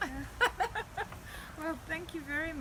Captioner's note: laughing